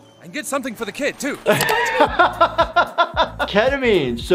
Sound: doctor laughing

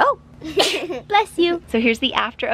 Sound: sneezing

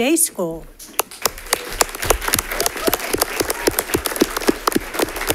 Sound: congregation claps

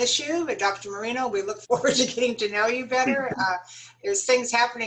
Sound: laughter

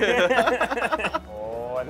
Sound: laughs

